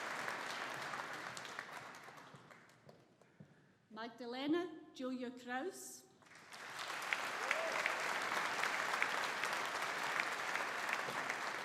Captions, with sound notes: Magdalena Julia Kraus. (AUDIENCE APPLAUDING)